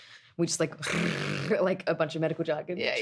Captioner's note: rolls tongue